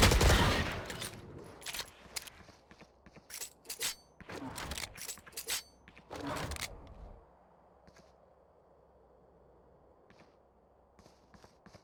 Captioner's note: footsteps